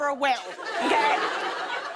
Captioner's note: laughter